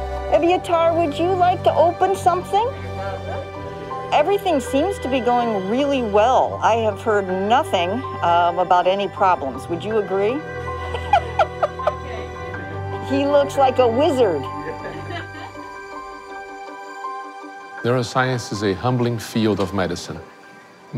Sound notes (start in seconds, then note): 10.8 laughs; 14.3 uplifting music